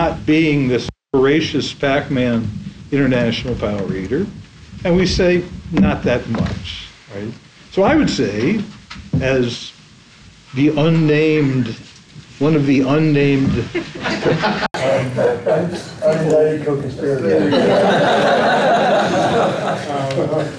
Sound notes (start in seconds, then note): 13.6 lausghter